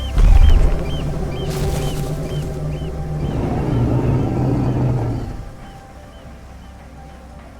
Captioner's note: dinosaur rumbles